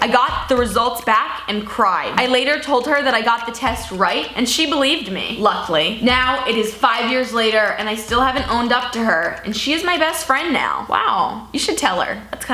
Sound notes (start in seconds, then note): none